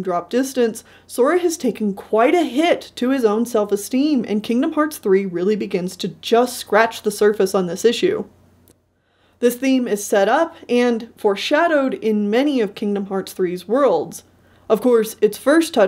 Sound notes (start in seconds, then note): none